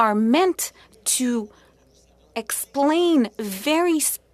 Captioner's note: speaking French